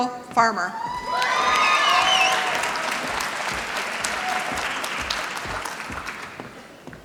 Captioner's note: applause